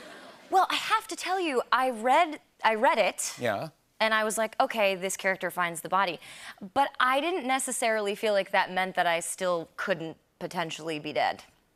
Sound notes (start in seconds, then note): none